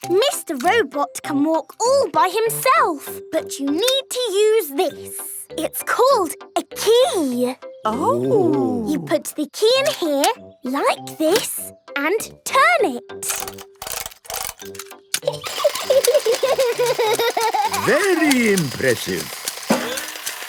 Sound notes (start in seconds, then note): 15.2 giggling; 15.6 George laughing